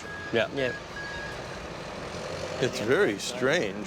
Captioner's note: machinery working